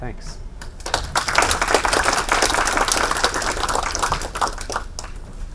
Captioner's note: audience applauding